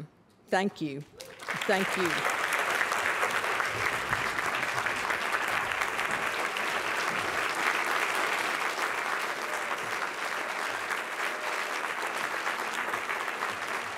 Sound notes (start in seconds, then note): 2.3 applause